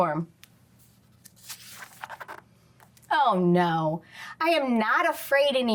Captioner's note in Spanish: crujido de página